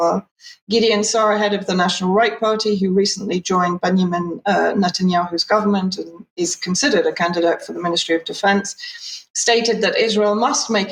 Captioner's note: speaking in Hebrew